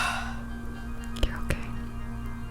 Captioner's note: sighing